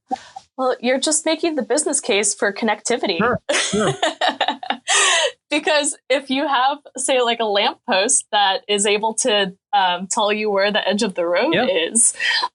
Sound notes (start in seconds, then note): 3.6 laughing